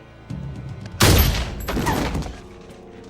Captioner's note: crash; gunfire